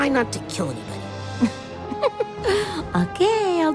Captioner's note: laugh